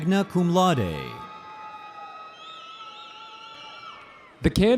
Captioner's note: audience cheering